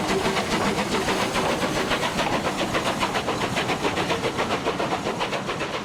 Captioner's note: train passes